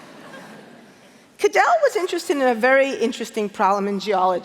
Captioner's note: laughter